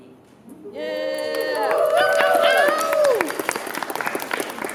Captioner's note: applause